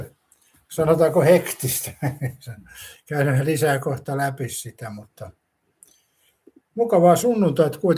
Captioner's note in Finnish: naurua